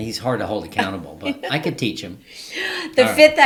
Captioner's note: laughing